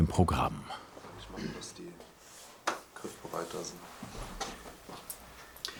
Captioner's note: quietly